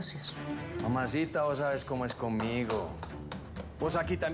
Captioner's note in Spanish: aplausos